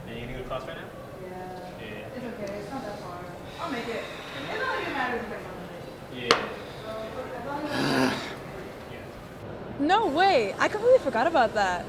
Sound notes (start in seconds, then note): 7.4 gruff sigh